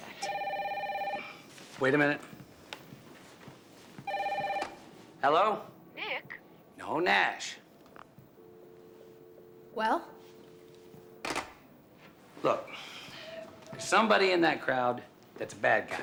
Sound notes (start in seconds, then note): 0.1 phone ringing; 7.7 dial tone